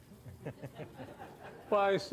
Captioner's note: audience laughs